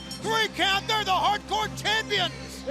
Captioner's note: bell ringing